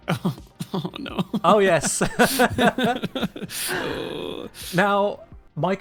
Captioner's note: both laugh